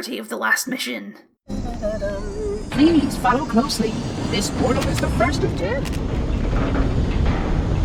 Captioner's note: humming; door Noises and Humming